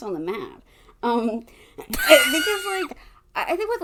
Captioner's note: wheeze laughs